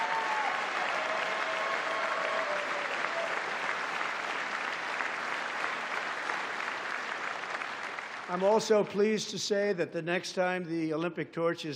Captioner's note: applause